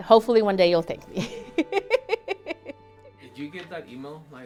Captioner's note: laugher